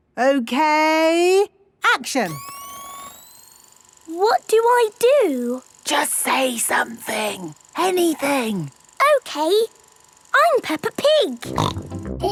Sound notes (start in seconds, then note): 2.8 camera whirring; 6.0 whispering